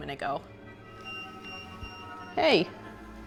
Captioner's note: EMF beeping